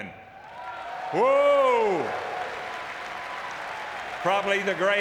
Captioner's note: audience clapping